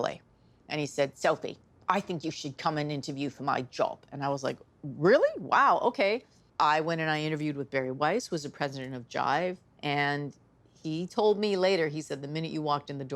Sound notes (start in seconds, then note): 1.9 in English accent; 3.6 in normal voice